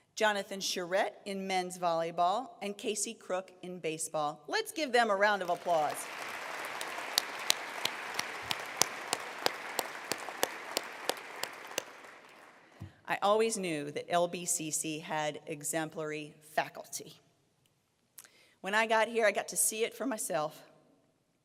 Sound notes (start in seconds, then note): 5.3 applause